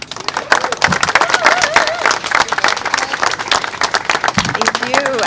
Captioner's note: applause